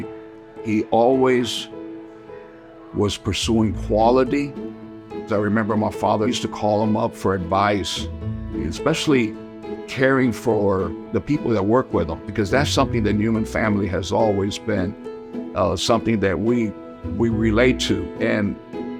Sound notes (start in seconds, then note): none